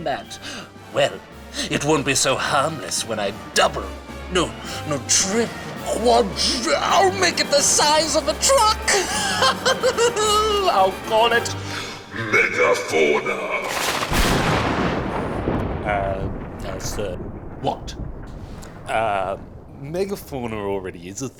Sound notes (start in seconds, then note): 8.5 cackles; 13.2 thunder rumbles